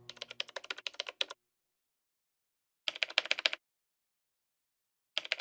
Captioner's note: typing